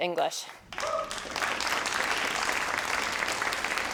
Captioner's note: crowd applauding